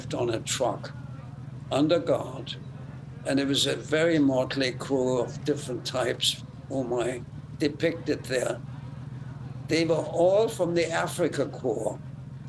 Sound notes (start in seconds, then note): none